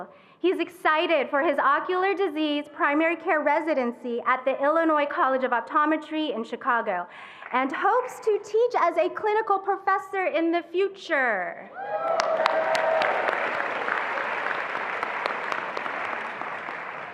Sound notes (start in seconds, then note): 11.7 attendees applauding and cheering